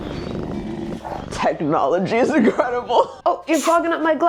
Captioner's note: laughing